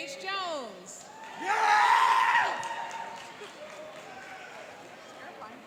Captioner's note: cheering and applauding